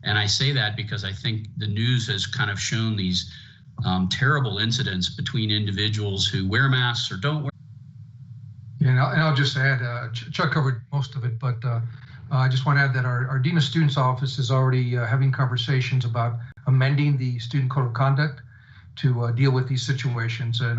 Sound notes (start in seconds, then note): 8.8 voice cuts out